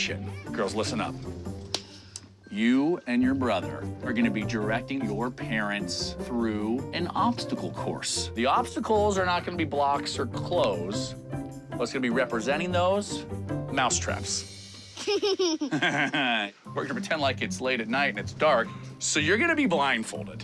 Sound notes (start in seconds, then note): 14.9 giggles; 15.0 laughs